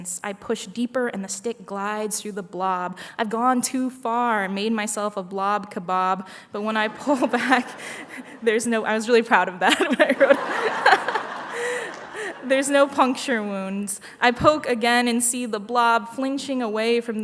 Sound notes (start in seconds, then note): 9.6 laughter